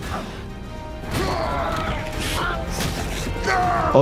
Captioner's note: words ringing; characters grunting; blood splatting